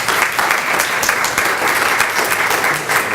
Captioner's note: clapping